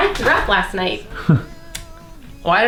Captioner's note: chuckle